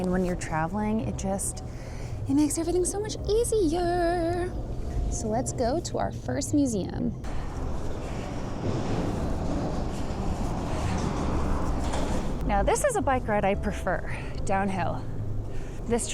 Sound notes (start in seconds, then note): 7.2 traffic whooshing